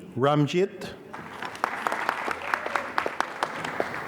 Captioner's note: applause